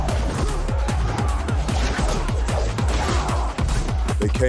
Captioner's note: grunting